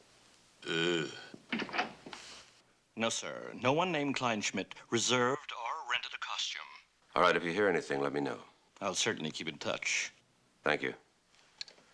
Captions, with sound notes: [belches] No, sir, no one named Kleinschmidt reserved or rented a costume. All right, if you hear anything, let me know. I'll certainly keep in touch. Thank you.